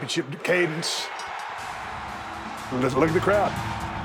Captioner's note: bell ringing